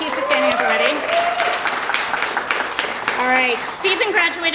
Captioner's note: applause